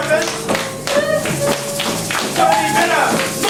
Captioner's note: audience shaking rattles